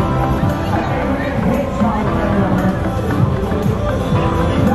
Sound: loud crowd chatter

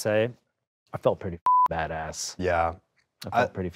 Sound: beep

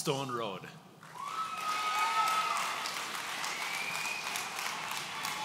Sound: audience cheering

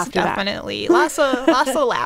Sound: laughing

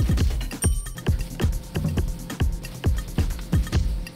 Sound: campanilla

